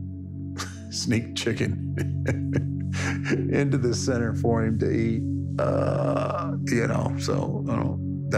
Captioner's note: laugh